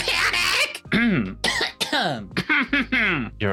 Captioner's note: coughs